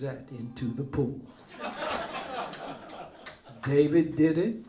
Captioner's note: laughter